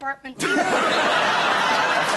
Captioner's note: laughter